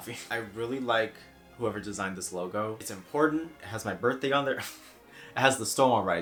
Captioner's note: snickers